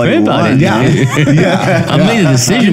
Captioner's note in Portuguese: risos